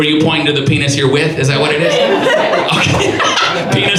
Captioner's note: audience laughs; laughing